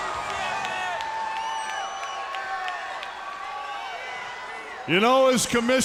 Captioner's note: crowd cheering